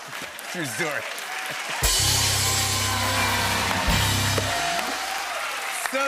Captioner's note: cheers and applause